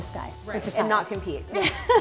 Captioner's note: laughs